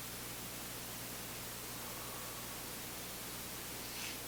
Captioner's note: both inhaling